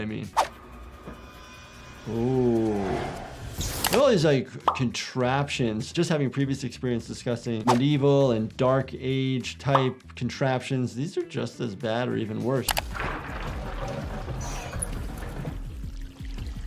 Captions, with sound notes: Ooh. All these contraptions, just having previous experience discussing medieval and dark age type contraptions, these are just as bad or even worse. (water sloshes)